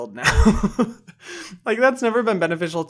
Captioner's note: laughs